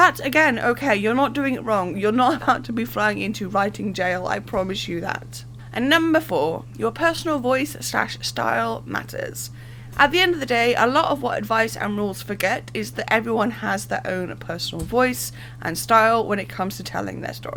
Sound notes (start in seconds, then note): 2.2 laughing